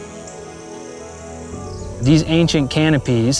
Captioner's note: insects chirping and buzzing